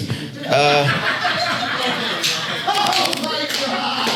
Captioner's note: audience laughs